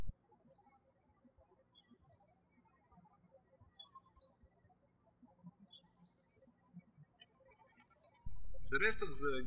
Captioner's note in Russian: птички щебечут